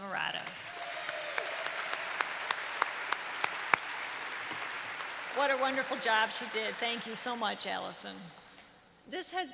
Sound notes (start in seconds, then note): 0.1 applause